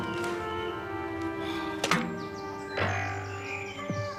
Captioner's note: sighing